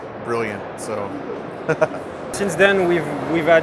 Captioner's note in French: Rires